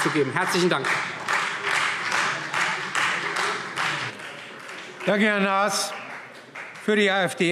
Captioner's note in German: Beifall Freie Demokraten